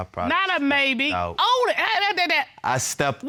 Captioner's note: stutters